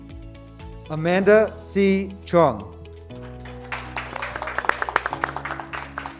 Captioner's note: graduates clapping